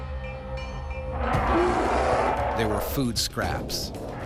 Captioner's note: bear growling